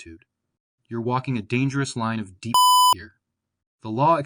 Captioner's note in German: Piep